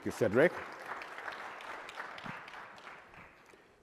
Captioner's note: applause